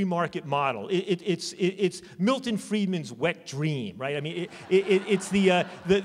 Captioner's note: laughter